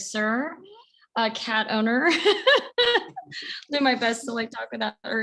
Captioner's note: laughs